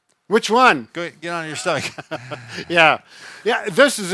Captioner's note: both chuckle